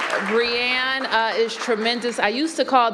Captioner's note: applause